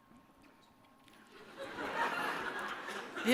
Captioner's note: laughter